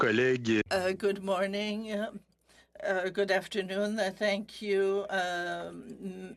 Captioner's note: speaking french